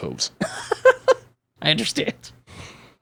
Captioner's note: laughing